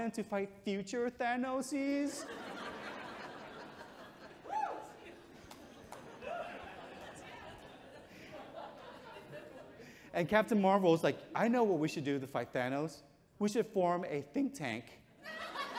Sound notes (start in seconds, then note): 2.2 audience chuckles